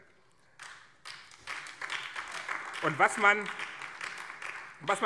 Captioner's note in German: Beifall BÜNDNIS 90/DIE GRÜNEN